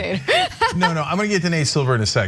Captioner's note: laugh